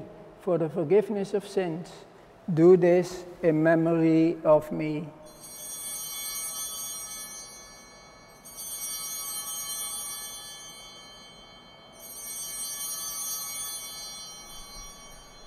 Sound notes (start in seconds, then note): 5.2 bells ringing